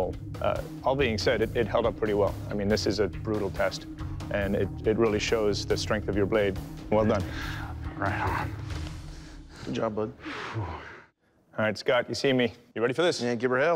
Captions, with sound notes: All being said, it held up pretty well. I mean, this is a brutal test, and it really shows the strength of your blade. Well done. Right on. - Good job, bud. - [exhales] All right, Scott. You see me. You ready for this? Yeah, give her hell.